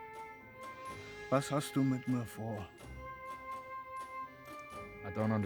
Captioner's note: speaking in German